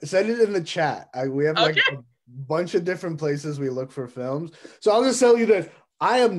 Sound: laughs

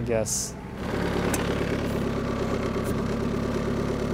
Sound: motor rumbling

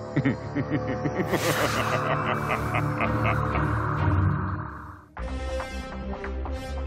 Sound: Cronus laughing

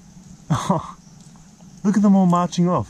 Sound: laughs

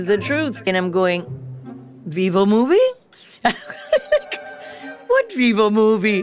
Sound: laughs

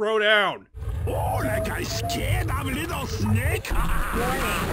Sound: laughs

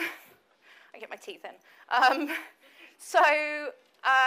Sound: laughs

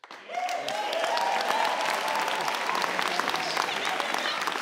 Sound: audience cheers

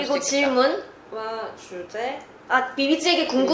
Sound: conversation

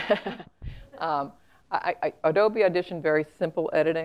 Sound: laugh

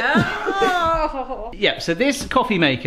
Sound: groans

